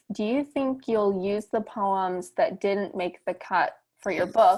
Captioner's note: none